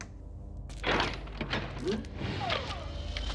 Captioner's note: door opening; Kellogg whirring